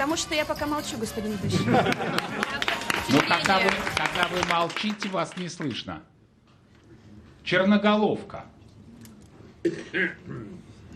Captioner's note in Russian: аплодисменты